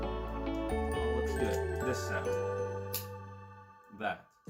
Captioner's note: clicks